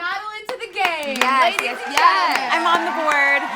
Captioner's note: crowd cheering